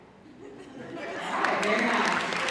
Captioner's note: audience laughing, applauding